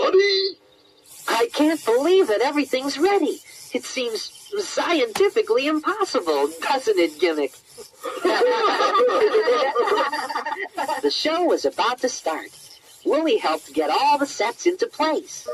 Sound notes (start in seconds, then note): 8.0 laughter